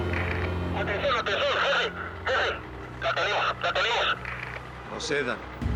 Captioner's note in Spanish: voz en el radio